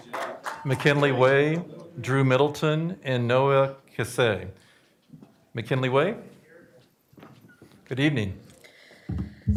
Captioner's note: applause